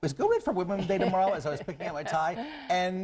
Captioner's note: laughing